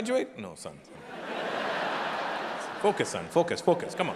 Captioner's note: audience laughing